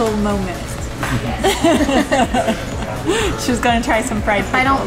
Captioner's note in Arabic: يضحك